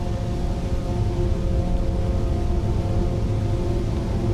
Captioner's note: rumbling ambience